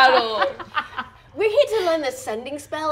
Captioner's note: laughing